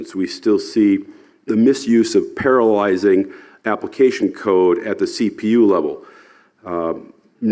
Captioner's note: none